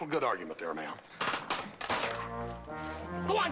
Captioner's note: branches crackling